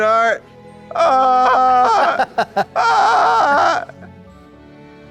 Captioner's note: squalls